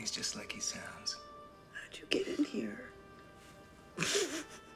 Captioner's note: snickers